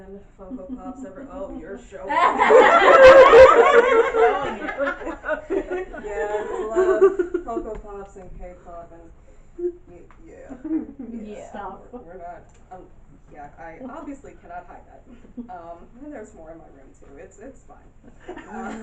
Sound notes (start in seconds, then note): 2.1 loud, amused laughing from the audience; 11.2 audience laughing and murmuring